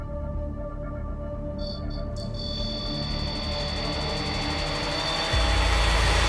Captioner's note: ominous music; beeping